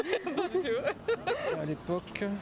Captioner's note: laughs